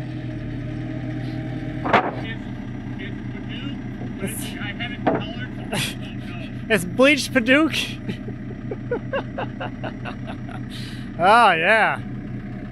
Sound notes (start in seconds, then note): 7.6 laughing